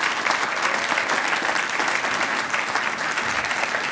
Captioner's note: applause